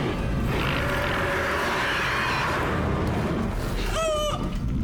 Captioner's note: screeching; growling